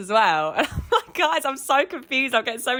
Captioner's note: laughs